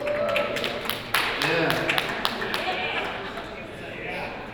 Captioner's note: scattered applause